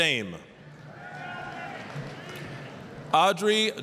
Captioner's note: applause